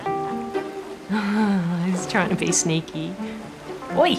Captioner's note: chuckles